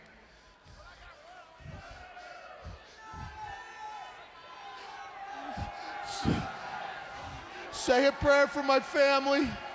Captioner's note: crowd chatter